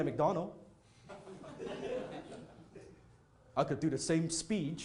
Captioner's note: audience laughing